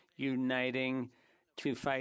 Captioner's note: speaking French